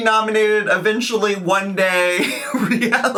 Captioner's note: chuckles